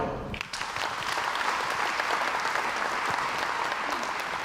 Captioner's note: crowd applauds